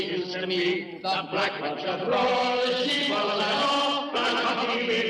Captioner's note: echoing